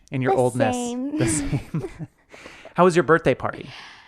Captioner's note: laughs